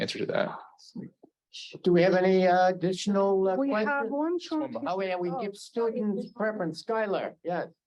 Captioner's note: Hebrew